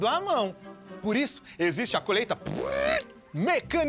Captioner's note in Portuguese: Ruídos com a boca